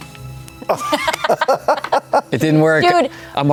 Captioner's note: laughter